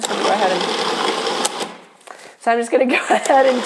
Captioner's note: food processor rattles